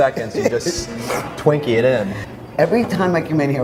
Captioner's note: slurps